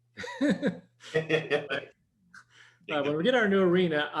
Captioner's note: chuckles